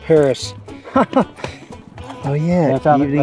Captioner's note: laughs